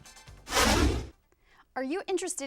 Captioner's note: deep swooshing